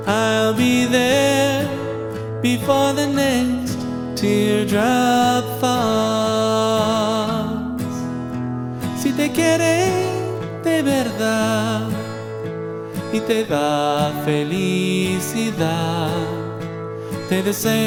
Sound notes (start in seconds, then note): 8.9 Spanish